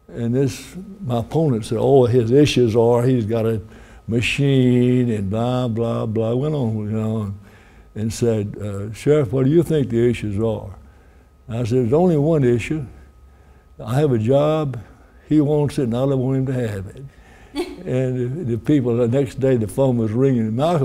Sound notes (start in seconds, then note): 17.5 reporter chuckling